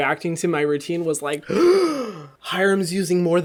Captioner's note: gasping